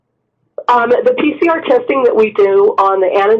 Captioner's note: voiceover